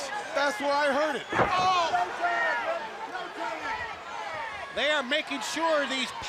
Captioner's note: crowd chatter